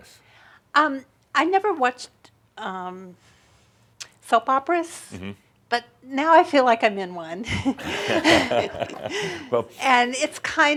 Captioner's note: they chuckle